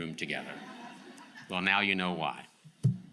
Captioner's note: audience laughs